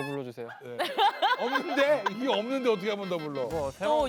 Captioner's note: phahahaha